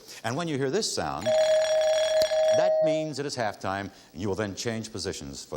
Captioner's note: bell chiming